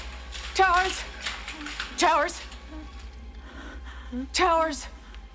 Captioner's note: gasping